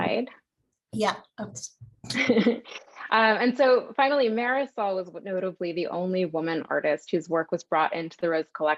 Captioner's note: laughter